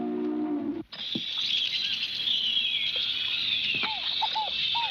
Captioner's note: birds chirping; dog barking